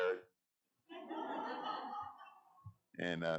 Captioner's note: audience laughing